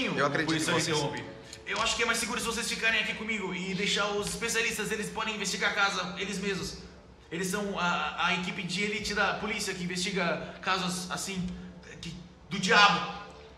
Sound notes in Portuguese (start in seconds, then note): none